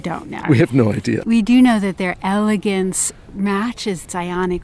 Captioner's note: voiceover